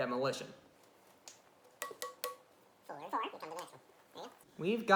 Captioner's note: fast Forwarded Sounds